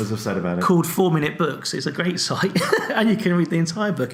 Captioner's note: laughs